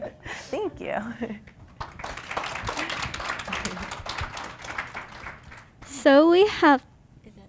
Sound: laughter; applause

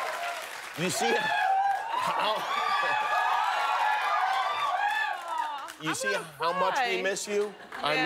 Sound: cheers and applause

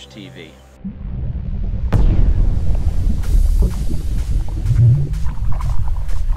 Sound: explosive bubbling sounds

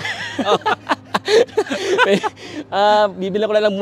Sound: laughs

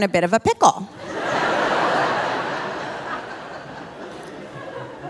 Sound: audience laughing

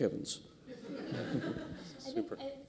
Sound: laughter

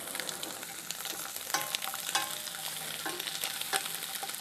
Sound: sizzling

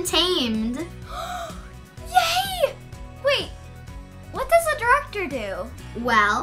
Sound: gasps

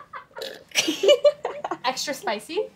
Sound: girls laugh

